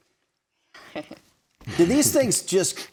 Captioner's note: host chuckles